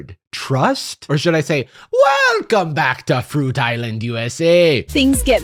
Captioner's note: scottishly